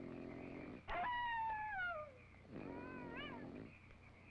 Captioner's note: coyote howling